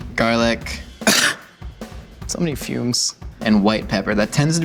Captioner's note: coughs